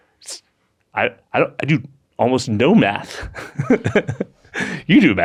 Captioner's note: laughs